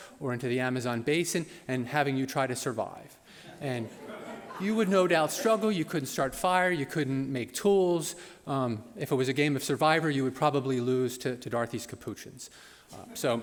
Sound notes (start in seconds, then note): 3.5 laughter; 13.2 laughter